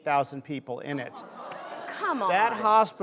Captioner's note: collective whoa